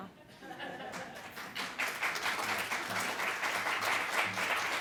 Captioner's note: applause